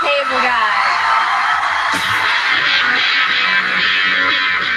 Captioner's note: audience screams